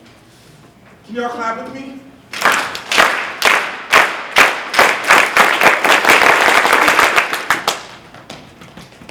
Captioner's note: clapping